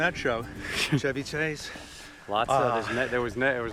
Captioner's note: Joel laughs